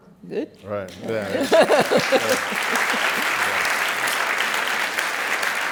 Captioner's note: applause